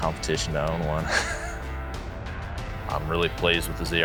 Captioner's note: laughs